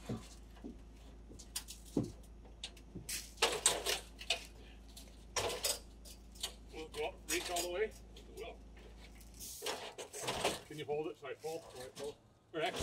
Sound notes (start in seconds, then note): 3.4 metal rattling